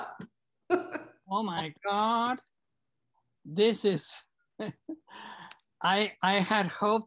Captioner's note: laughs; laughs